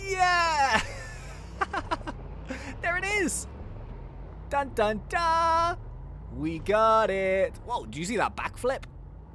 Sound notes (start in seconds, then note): 0.5 laughing loudly